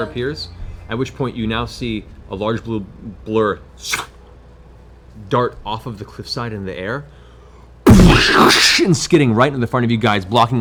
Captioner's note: whoosh; impact noise